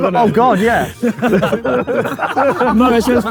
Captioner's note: group laughing